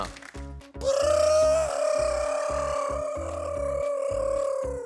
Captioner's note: trills